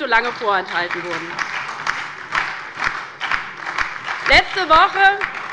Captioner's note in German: Beifall bei der LINKEN, der SPD und dem BÜNDNIS 90/DIE GRÜNEN